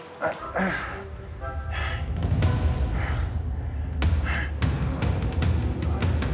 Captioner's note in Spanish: Quejidos